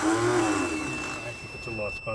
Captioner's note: electronic beeping